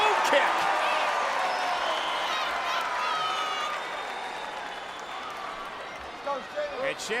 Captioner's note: applause